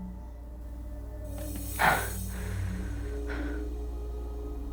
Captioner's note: heavy breathing